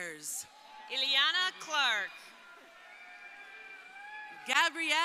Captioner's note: crowd cheering